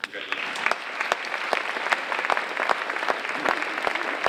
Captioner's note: audience applauding